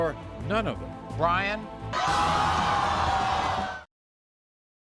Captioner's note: audience screams